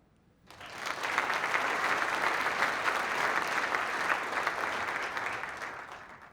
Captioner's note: applause